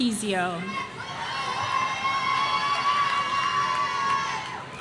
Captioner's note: audience cheering